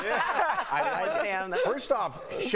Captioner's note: laughter